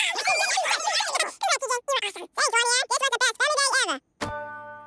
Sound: speaking fast forward

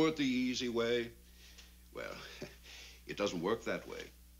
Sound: chuckles

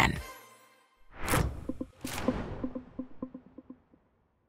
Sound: logo whooshes

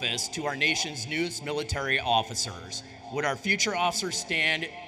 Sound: none

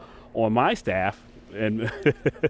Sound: laughing

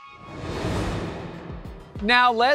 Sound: graphics whooshing

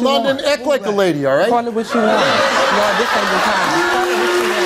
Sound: audience laughs

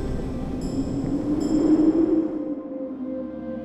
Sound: air whooshes

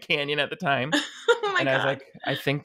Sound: laughs

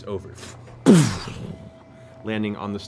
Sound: imitates booming

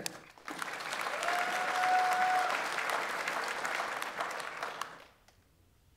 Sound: audience applauds; audience members cheer

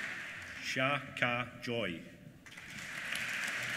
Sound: applause

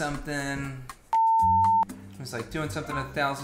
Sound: high pitched tone

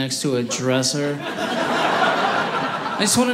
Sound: audience laughing

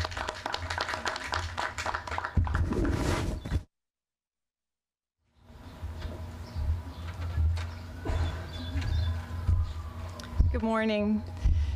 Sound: applause

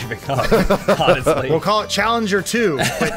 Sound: laughs

